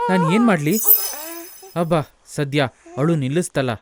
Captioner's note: baby stops crying